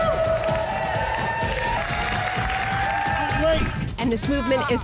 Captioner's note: all cheering